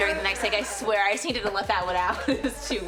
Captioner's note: Luke laughing